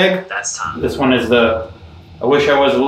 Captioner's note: computerized Voice